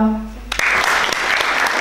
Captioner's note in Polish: oklaski